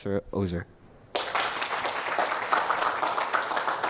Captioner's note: applause